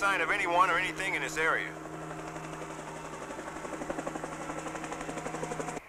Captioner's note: helicopter flying